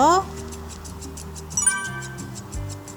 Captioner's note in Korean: 효과음/띠링하는 소리